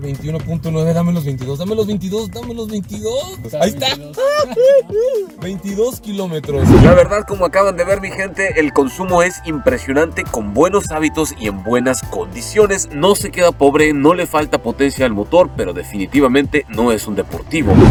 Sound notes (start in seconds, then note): 3.7 excitement exclamation